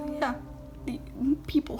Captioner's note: emmh noise?